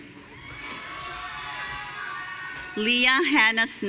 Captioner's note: audience cheering